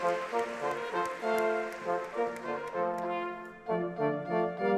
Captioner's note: audience clapping